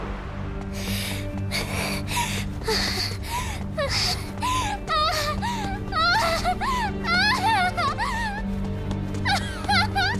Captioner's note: huff